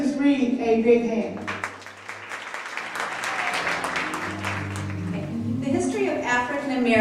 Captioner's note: audience applause